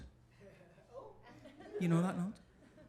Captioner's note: audience laughing